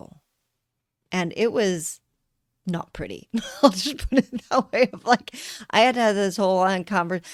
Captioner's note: laughter